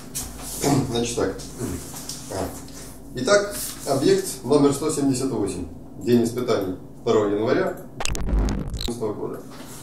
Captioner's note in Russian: помехи